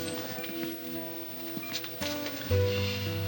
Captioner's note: heart monitor beeping